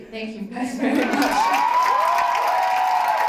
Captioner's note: cheering and clapping